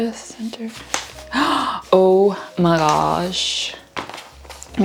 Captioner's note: gasp